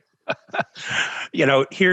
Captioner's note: laughing